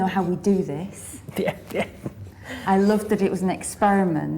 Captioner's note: laughing